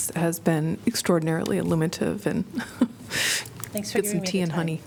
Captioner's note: laughter